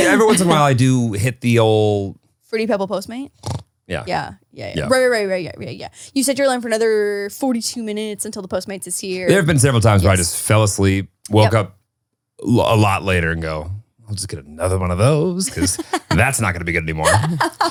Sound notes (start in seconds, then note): 3.5 snores; 16.9 laughs